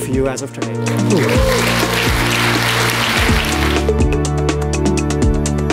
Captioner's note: applause